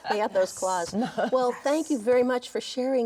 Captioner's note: everyone laughs